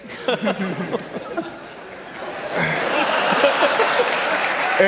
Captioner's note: laughter